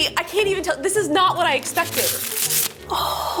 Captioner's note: plastic rustles